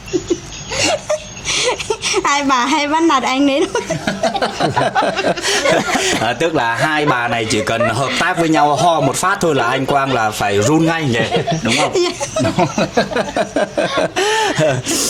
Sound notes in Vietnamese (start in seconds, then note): 1.9 tiếng cười; 12.2 tiếng cười